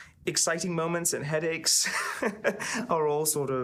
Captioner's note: laughing